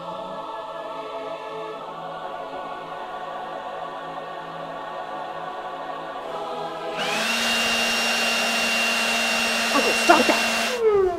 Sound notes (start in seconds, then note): 6.8 leaf blower whirring; 9.8 leaf blower powers down